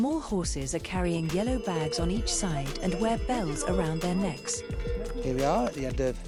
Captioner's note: cow bells ringing